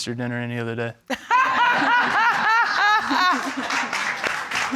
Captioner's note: laughing loudly